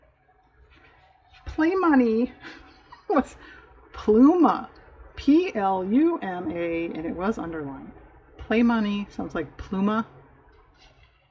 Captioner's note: laughs